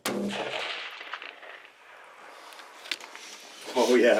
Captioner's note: rifle fires